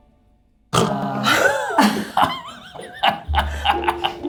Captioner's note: laughs